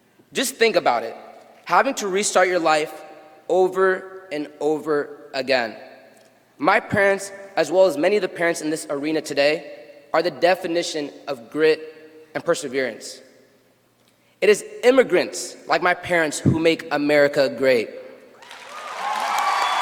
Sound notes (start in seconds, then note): 8.0 cheers and applause